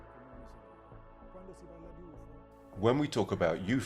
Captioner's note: speaking in foreign language